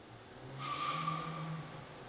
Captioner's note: tyre chirps